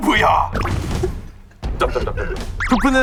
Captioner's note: the original writer can't stop laughing